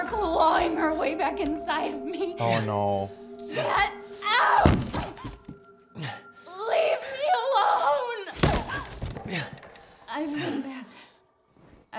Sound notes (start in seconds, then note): none